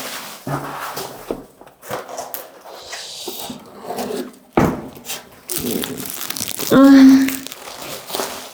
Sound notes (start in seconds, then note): 5.5 moans